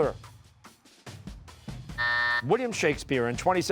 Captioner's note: buzzer